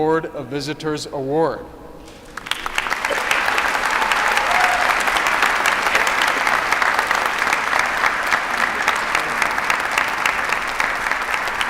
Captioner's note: applause